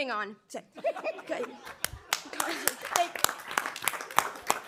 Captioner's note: people applauding